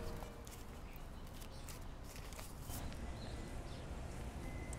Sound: paper rustling

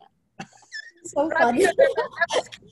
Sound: laughter

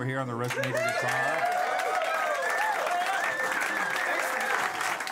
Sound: cheers and applause

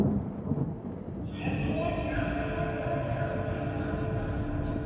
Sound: thunder Rumbling; echoing

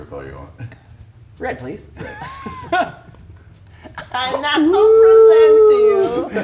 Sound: laugh

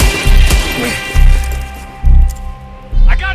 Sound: gunshots

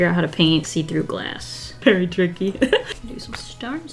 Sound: laughs

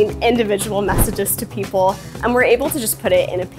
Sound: screen whooshing

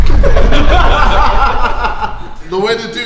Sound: laughing

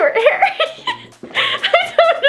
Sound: laughing

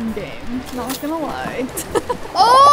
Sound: laughs

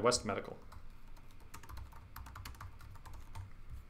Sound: typing

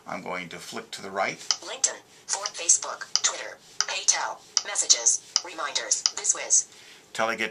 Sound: VoiceOver, Synthesized Speech

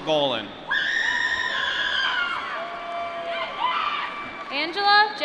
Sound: applause

